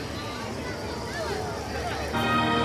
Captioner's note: crowd murmuring; dramatic orchestral music